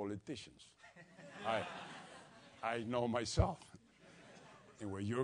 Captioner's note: laugh